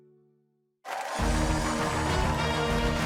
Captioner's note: cheers and applause